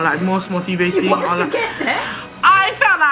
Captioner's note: chuckling